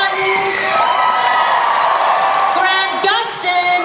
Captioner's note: audience cheers